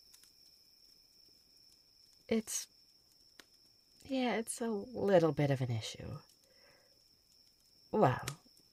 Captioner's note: sigh